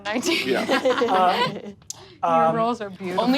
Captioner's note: all laugh